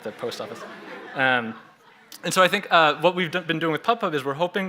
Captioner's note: chuckles